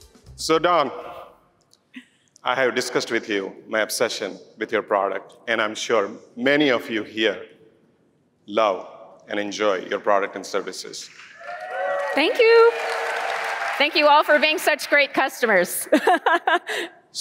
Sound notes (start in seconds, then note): 11.2 cheering